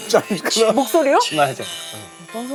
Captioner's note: A soft tone that makes you doubt your ears